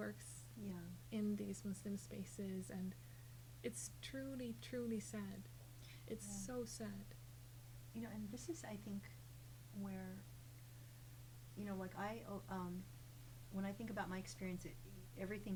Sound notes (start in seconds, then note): none